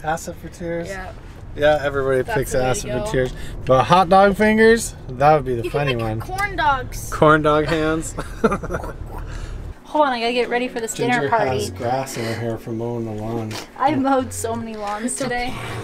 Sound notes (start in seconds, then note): 7.6 giggles